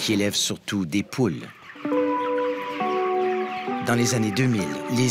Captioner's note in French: caquètements